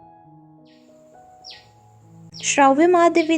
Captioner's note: bird sound